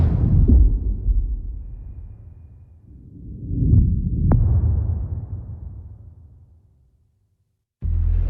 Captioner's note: dramatic sound